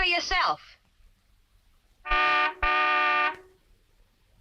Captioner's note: car horn blaring